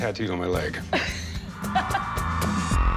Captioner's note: laughs; cheers and applause; pop music